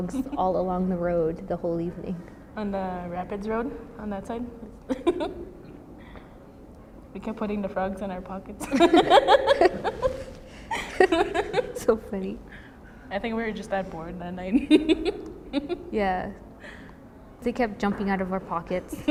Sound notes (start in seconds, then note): 4.8 laughs; 8.6 both laugh; 18.8 both laugh